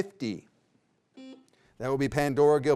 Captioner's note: beep